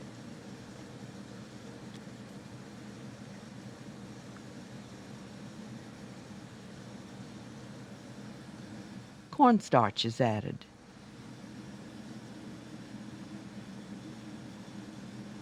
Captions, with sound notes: - [Voiceover] Cornstarch is added.